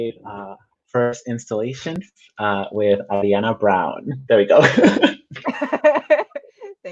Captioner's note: both laugh